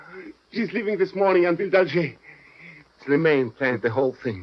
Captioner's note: French